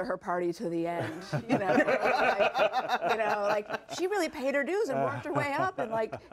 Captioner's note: laughter